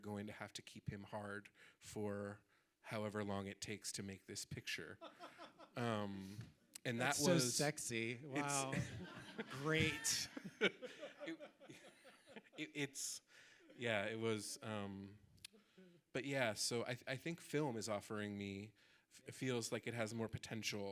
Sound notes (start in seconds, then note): 8.4 audience laughing